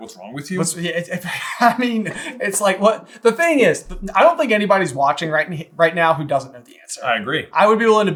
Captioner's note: laughs